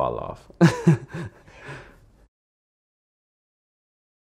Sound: laughs

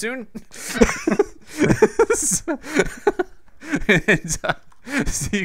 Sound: giggles

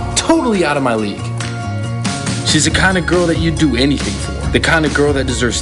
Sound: none

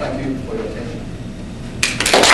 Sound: audience applauds

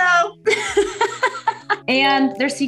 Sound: laughing

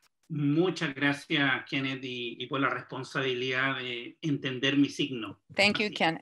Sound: speaks foreign language

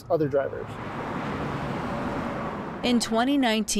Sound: traffic roaring

